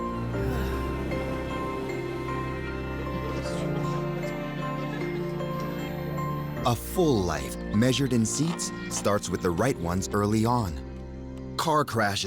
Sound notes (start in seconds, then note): 0.4 man sighing contentedly; 3.8 people chatting